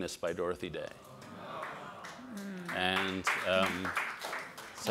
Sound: audience applauds

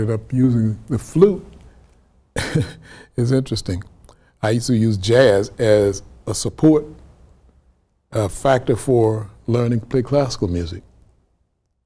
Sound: laughs

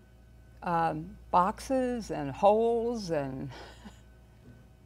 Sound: chuckles

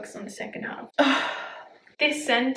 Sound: sighs

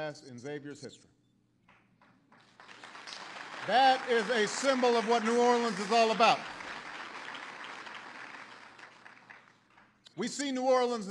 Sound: applause

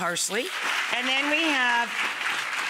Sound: audience applauds

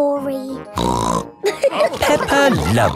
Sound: snorts; all laughing

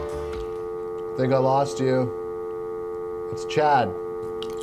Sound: dial tone

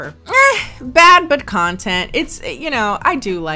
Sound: sighs

